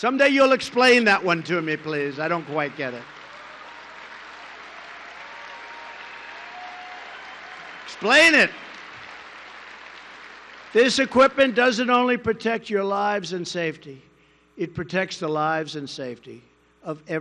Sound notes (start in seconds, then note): 3.4 applause